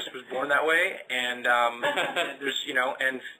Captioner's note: laughter